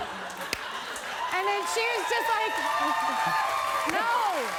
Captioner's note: cheers and applause